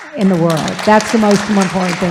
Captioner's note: audience applauding